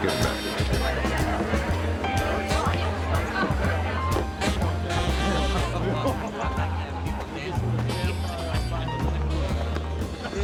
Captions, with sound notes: - Get her back to the table. (romantic music) (people chattering)